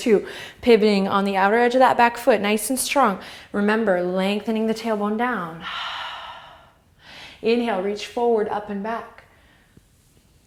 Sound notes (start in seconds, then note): 5.6 exhale